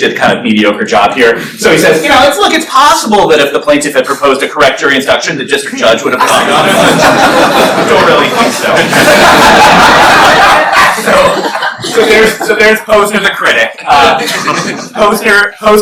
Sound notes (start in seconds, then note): 9.0 laughter